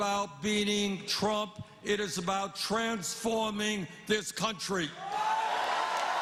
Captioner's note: cheers and applause